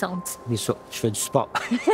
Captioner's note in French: rires